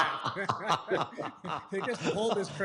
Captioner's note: laughter